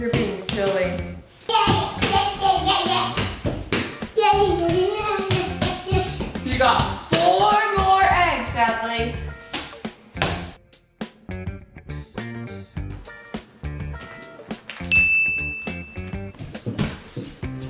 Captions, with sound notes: - You're being silly. - Yay, yay, yay, yay (foot stomping) - You got four more eggs, Adley. (ding)